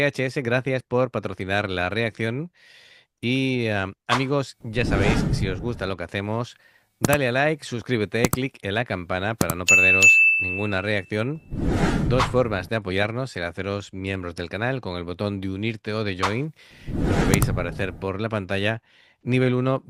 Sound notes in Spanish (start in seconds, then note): 9.6 campana